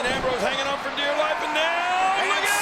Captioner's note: applause